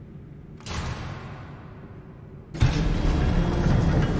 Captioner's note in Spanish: Portón abriéndose